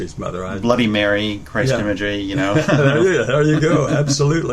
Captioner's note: laughter